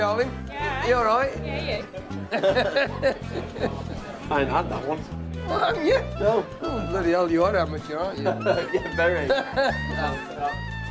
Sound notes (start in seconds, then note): 2.2 laugh; 8.2 chuckles